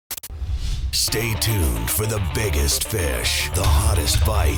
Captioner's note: voiceover